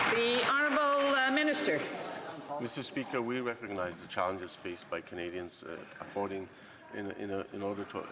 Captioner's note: some Applause